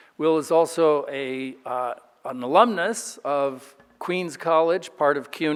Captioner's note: none